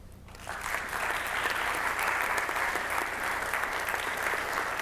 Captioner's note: audience applauds